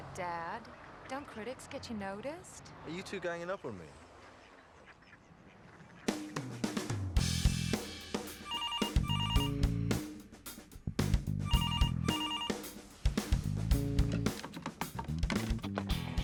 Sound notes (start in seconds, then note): 6.9 upbeat music; 8.4 phone ringing